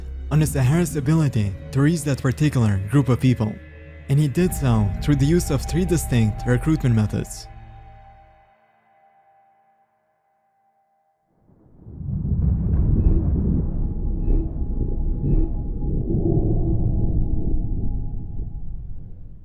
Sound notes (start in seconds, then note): 11.6 light air whoosh; 11.8 thunder rumbling